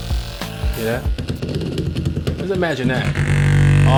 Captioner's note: massager thumping; massager whirring